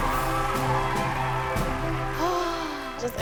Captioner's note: sighs